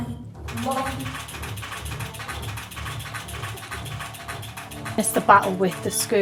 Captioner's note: clacking